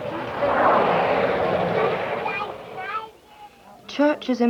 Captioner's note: vehicle passing on road